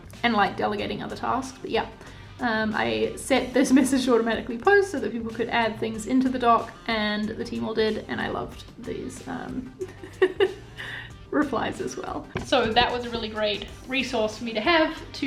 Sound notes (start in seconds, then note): 9.8 laughs